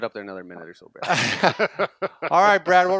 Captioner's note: laughter